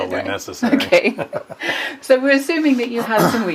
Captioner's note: laughs